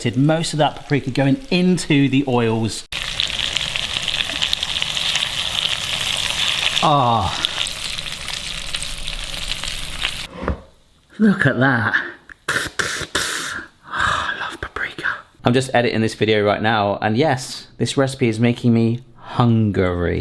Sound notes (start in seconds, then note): 3.3 chicken sizzling; 12.5 hisses slowly